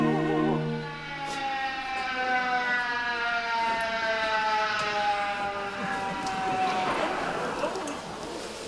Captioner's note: fire engine noise